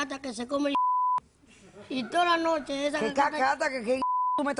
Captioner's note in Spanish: Bip; Bip